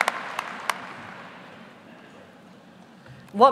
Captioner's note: applause